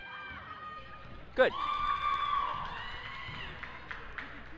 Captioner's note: crowd cheers